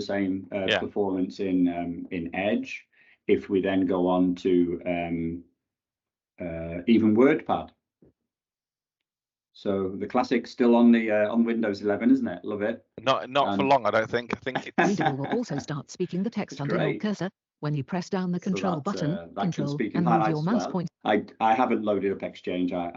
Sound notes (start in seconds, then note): 14.2 computer speaks